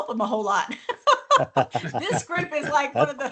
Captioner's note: laughter